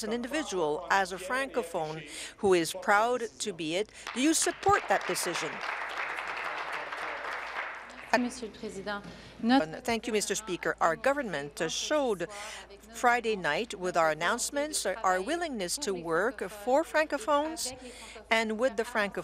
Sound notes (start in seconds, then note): 8.6 applause